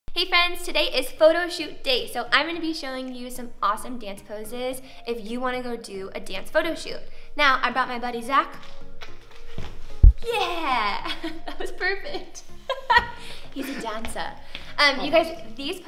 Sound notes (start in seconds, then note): 12.6 laughs